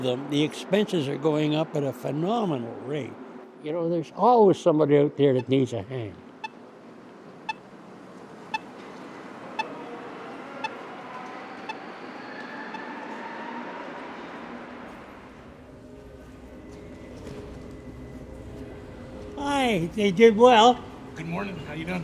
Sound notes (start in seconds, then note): 8.4 safe crossing sound